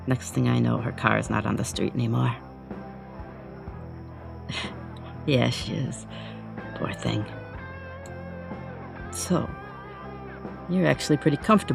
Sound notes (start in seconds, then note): 4.5 chuckles